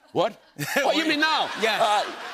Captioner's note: laughter